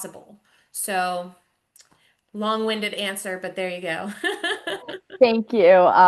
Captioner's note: laughs